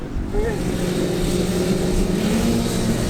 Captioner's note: bikes revving up